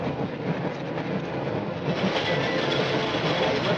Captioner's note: train rumbling